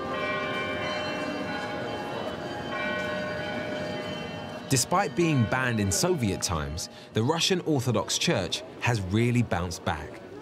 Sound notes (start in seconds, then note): 0.0 bells ringing